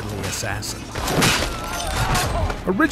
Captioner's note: whack